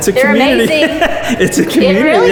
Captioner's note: laughs loudly